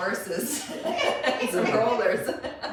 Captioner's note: laughs